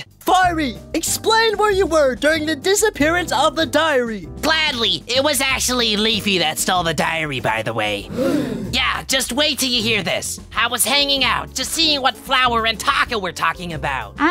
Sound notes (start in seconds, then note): 8.0 gasp